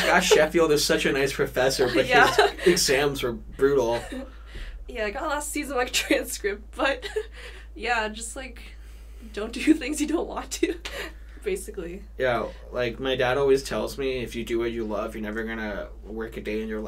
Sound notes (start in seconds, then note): 0.0 both laughing; 1.7 laughs; 6.9 laughs